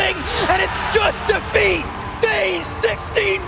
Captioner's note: crowd cheering